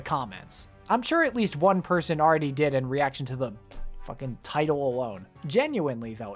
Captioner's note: slams arm of chair